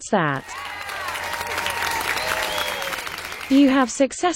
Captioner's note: cloud cheering